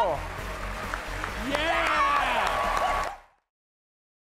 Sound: cheers and applause

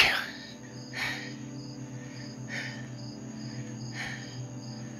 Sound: Matteo panting

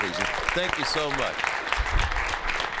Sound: applause

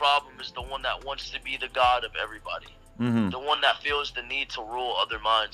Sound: mhmm

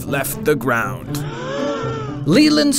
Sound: gasps

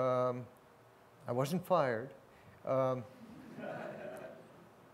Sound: laughter

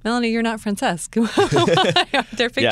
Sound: laughter

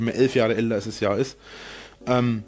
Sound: inhales

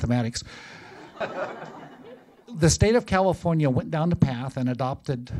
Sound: laughter

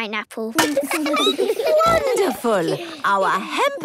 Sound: laughing, snorts

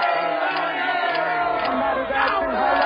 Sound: camera clicking

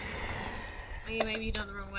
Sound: air hissing

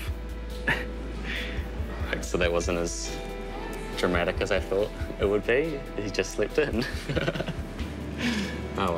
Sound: chuckles

